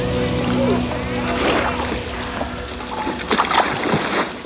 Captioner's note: gang members chatter; water splashes